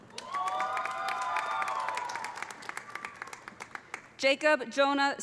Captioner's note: audience applauding; audience cheering